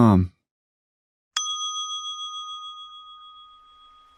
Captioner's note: chiming tone